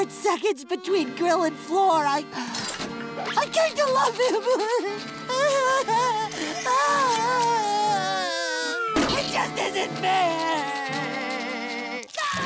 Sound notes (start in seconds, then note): 5.2 crying